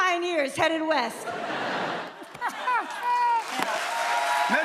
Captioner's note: laughter